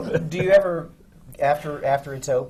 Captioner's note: laughs